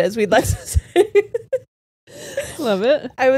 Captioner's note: all laughing